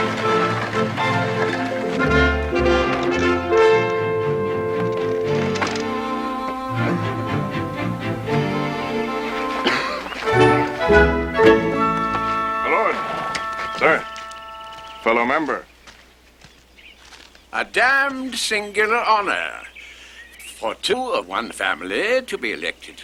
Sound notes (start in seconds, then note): 1.5 Aplausos